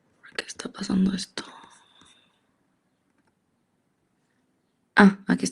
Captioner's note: speaks in Spanish